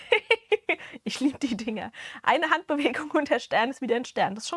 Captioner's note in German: Gelächter